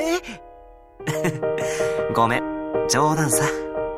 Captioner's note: chuckle